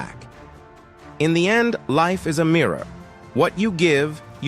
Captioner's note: voiceover